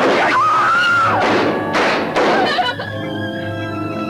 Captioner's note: screaming; gun firing; crying; dramatic music